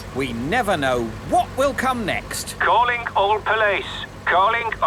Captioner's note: radio